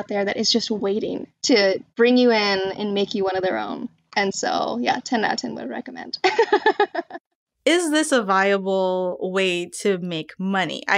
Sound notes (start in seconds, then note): 6.2 laughter